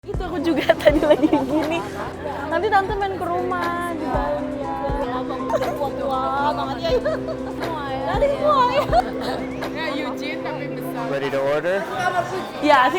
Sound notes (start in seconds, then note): 0.3 speaks in foreign language; 7.3 laughs; 8.4 speaks in foreign language